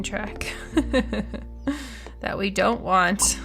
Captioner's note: laughs